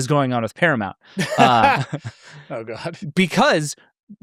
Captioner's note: laughs